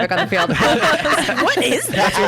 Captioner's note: laughs